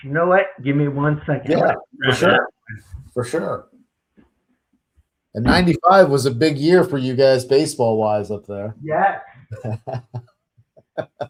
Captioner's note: laughs